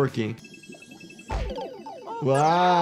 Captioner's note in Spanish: efectos de sonido del juego